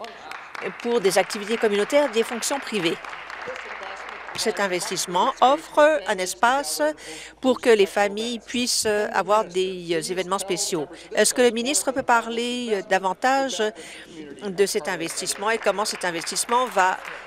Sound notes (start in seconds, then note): 5.1 applause